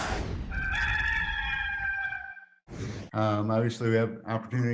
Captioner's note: rooster crowing